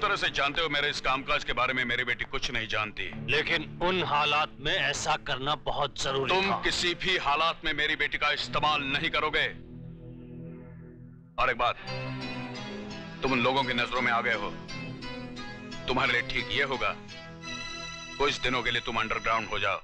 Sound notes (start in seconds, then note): none